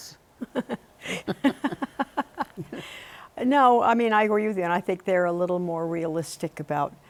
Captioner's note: laughing